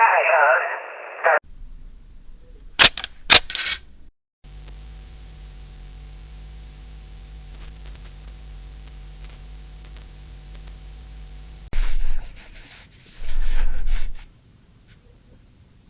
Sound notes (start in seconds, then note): 2.8 camera shutter